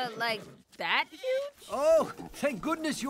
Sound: sheep baaing

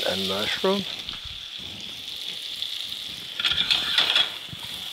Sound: pan sizzling

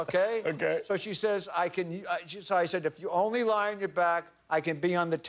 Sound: laughter

